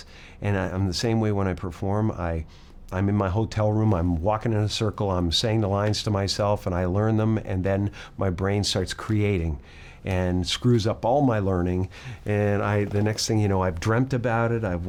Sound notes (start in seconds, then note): none